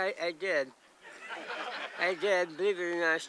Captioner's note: audience laughs